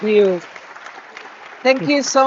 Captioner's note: audience clapping